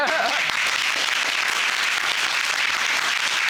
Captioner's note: applauding